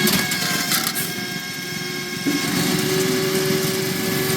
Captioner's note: drill whirring